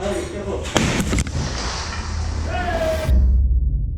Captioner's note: speaks faintly; hammer thuds; glass shutters; man exults